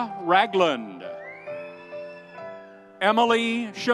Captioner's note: audience cheering